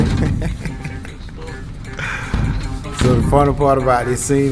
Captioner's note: laughing